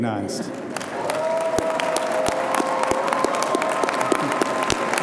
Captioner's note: audience applauding